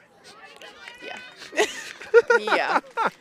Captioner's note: laughs